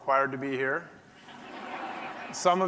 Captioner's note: audience laughing